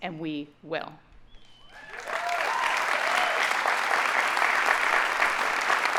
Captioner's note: audience cheering and applauding